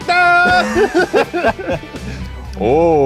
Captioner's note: laugh